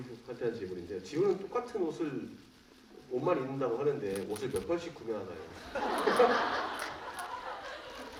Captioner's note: laughs